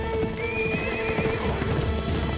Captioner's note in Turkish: At kişneme sesi